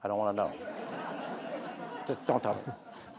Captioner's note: audience laughing